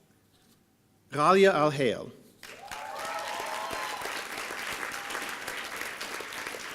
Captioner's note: applause